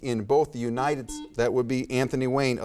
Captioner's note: buzzer beeps